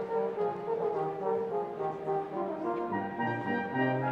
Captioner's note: none